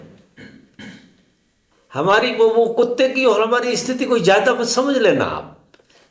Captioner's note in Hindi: गला साफ़ करने की आवाज़